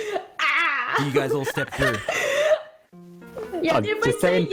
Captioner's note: excited gasps